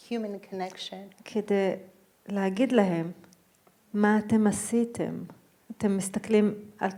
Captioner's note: speaking in foreign language